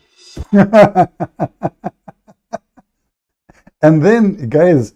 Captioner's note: Ketawa